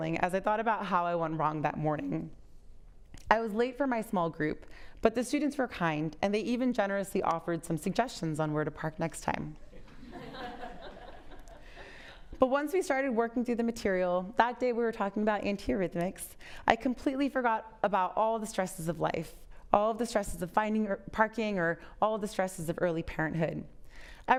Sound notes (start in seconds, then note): 9.8 audience laughs